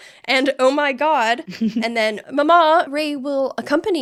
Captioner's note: laughing